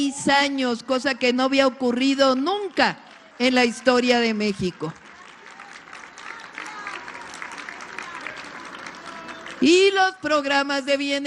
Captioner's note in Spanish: aplausos